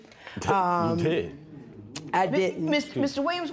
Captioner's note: scoffs